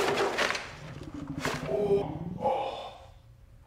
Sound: stomach grumbles

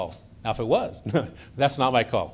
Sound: chuckles

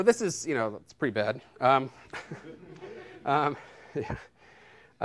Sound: laughter

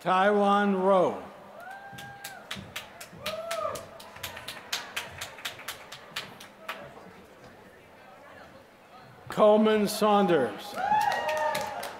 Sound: applause

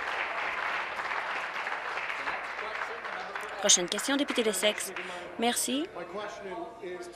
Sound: applause

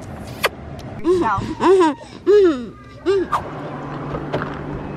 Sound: laughing

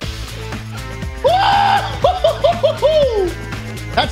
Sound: Schlatt whooping

